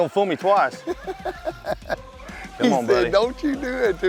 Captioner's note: laughter